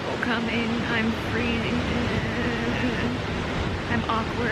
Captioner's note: distressed noises